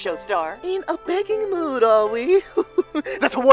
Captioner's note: laughs